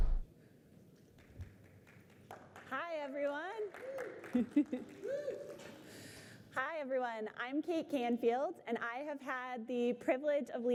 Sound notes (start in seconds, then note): 1.0 applause; 3.3 cheers; 4.2 laughter